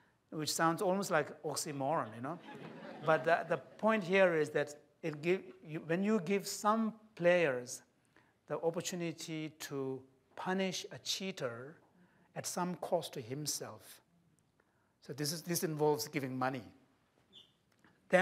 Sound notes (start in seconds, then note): 2.4 laughter